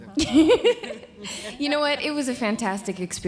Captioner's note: laughing